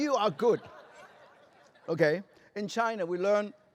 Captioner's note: laughter